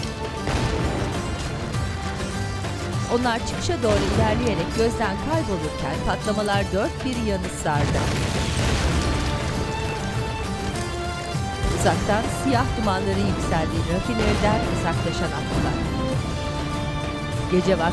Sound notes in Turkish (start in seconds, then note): 0.4 Patlama sesi; 3.9 Patlama sesi; 7.8 Patlama sesi; 10.9 Patlama sesleri